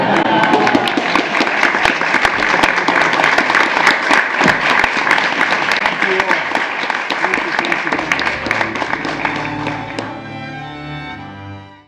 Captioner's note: applause